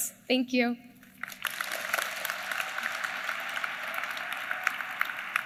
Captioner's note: applause